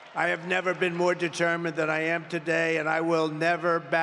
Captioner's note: applause